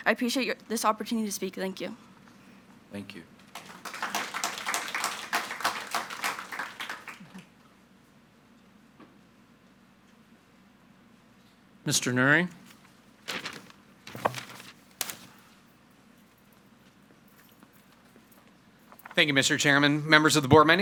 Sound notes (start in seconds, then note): 3.5 audience applauding; 14.0 paper rustles